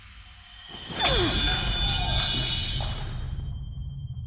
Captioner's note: clanging